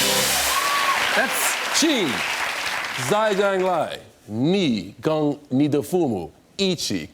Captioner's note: speaking Mandarin